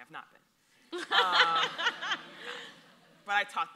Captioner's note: audience laughs